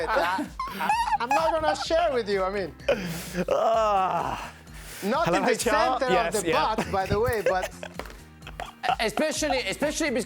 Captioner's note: laughter